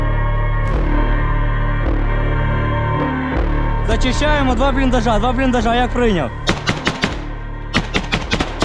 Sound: shooting

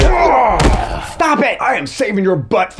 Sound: Writer's Block grunts

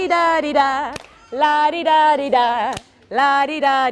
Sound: clap; clap

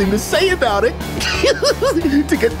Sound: laughing

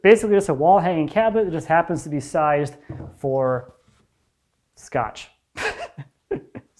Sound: chuckles

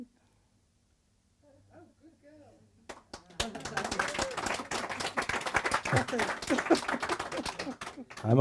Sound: applause

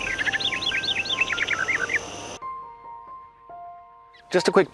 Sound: gentle serene music; birds chirping

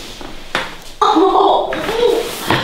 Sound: the girl screams after massage

